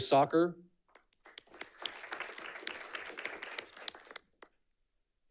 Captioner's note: audience clapping